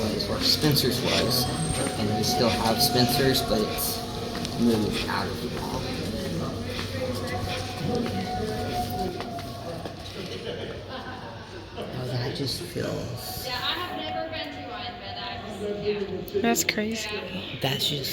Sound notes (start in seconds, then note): 6.6 background noise, howling